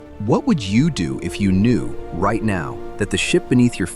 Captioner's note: thoughtful